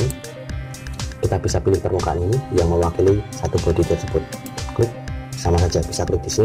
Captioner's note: click